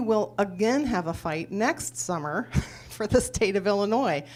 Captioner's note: laughs